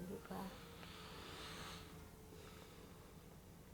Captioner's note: deep breath